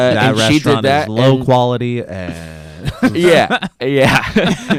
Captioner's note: laughs